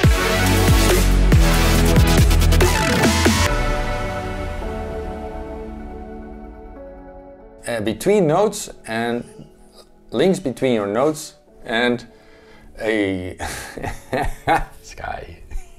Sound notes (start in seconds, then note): 9.2 yawns; 13.4 laughing